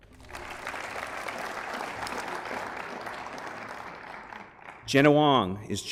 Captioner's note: applause